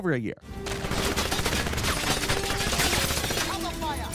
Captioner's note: bullets popping